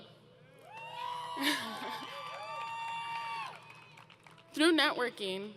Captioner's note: crowd Cheering